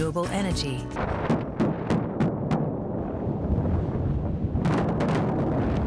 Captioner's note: explosives detonating